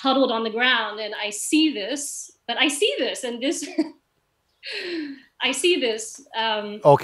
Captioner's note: lacht